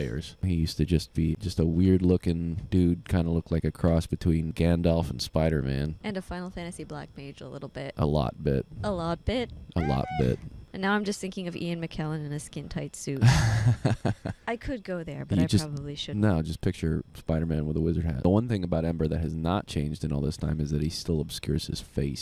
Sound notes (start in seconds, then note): 13.7 laughing